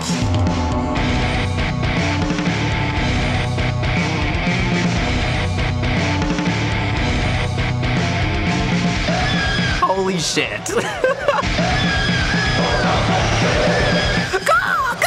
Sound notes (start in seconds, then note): 10.6 laughs; 11.5 shrieking